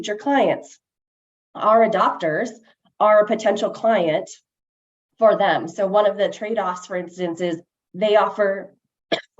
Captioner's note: coughs